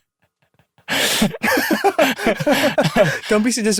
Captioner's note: laughter